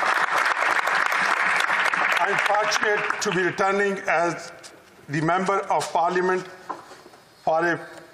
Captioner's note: applause